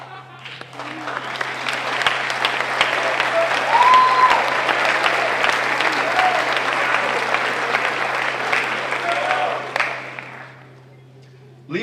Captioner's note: applause